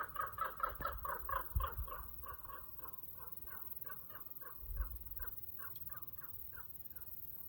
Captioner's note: raven croaking